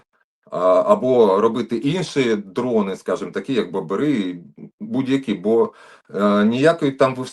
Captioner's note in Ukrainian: прочищення горла